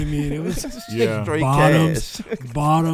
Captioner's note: laughs